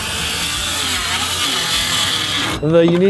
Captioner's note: tool buzzing